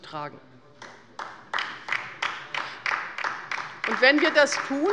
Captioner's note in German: Beifall bei der LINKEN